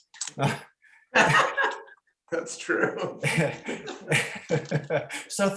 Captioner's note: laughter